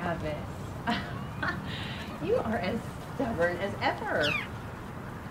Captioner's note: laughs